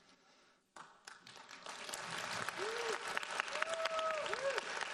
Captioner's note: audience applauds